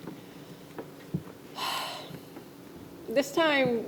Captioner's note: sighs